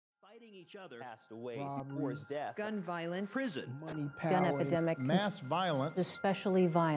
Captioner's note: news clips playing in background